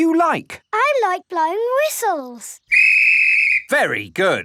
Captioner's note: blows whistle